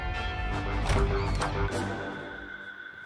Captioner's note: Door opens